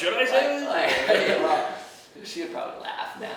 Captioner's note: laughing